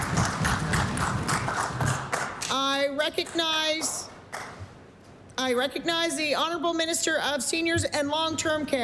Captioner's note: applause